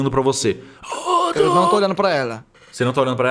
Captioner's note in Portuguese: grunhidos